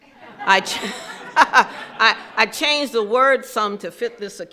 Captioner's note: laughing